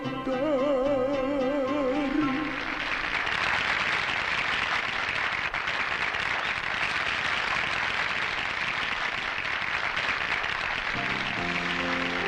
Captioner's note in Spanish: Aplausos